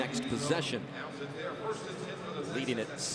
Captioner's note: pa announcement